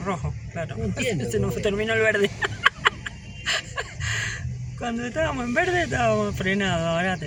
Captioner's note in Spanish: risas